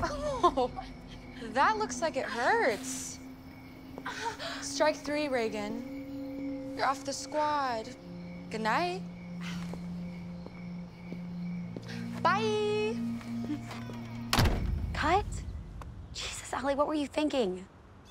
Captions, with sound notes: - Oh...[laughs] that looks like it hurts. - [groaning] - Strike three, Regan. You're off the squad. Good night. By-eeee! - Cut? Jesus, Ally, what were you thinking?